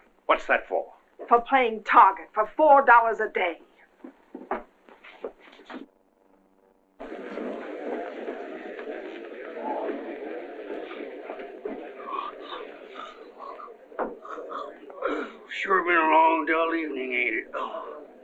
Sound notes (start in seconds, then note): 6.9 chatter